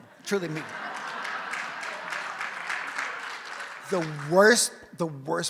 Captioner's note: audience laughs and applauds